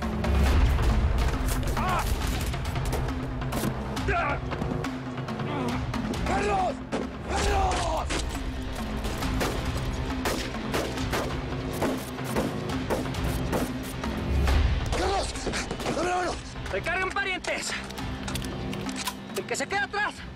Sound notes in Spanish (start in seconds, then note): 0.1 Disparos; 2.9 Gritos; 10.2 Disparos